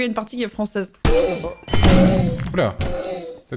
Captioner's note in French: bruit d' qui marave le mob